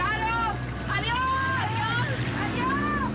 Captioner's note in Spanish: Ruidos de los motores al irse; Todos se gritan "¡Adiós!"